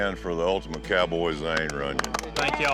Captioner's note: all clapping